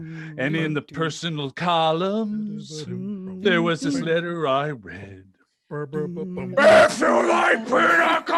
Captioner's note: growling